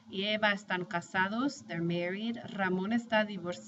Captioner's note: speaking spanish